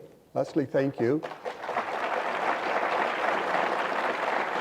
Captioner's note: audience applause